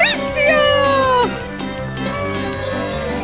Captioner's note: party horn blows